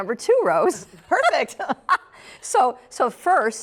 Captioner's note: laughs